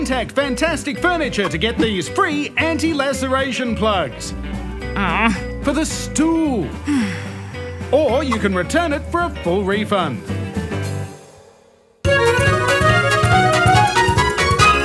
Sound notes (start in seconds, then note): 4.9 groans